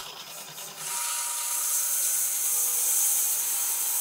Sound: saw whirring

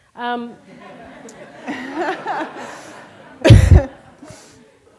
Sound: laughter

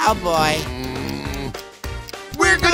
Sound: groaning

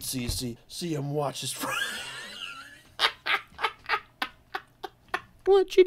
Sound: uncontrollably wheezing

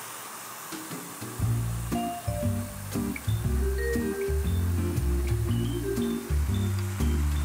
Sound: meat sizzling; upbeat music

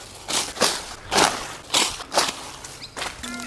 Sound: foliage rustles

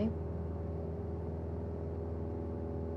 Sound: airplane hums

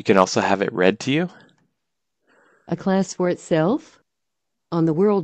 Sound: computer voice

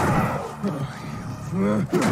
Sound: zombies screaming

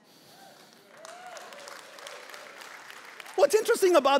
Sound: congregation applauding

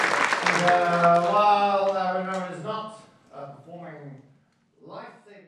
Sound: mathematician wittering

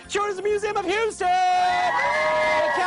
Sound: cheers

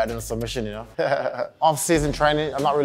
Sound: Leon laughs

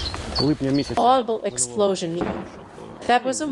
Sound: audible explosion

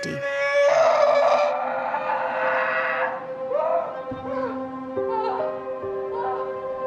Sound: soft dramatic music; Anne screams

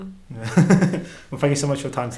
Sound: laughs

